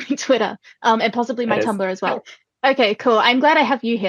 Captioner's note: laughing